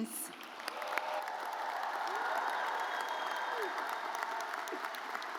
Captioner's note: audience cheers